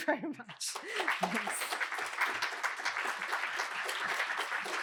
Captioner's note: applause